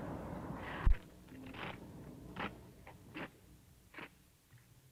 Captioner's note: footsteps